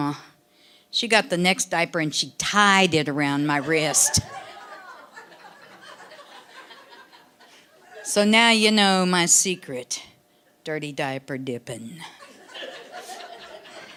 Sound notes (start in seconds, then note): 3.5 audience laughing